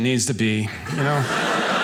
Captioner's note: audience laughing